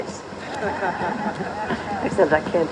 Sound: laughter

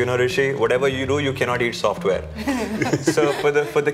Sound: laughter

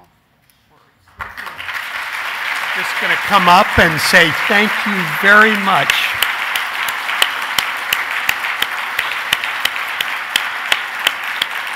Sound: applause

